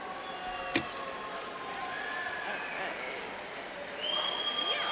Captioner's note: cheers and applauds